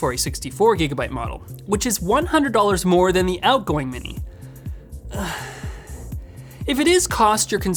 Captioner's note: sighs